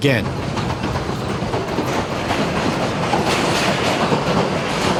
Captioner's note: train chugging